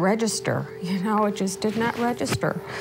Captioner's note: breathing heavily